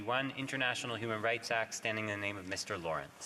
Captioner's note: speaking French